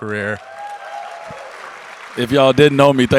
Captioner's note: audience cheers